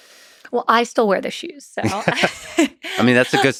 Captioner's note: laughs